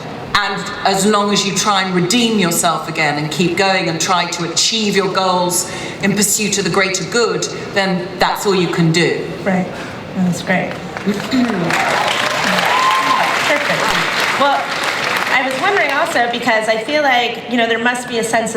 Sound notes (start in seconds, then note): 10.7 audience cheering and applause